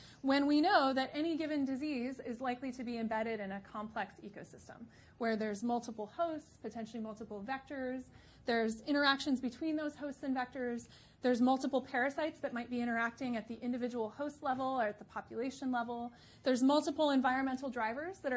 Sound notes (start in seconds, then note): none